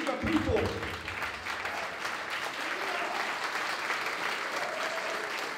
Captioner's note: applause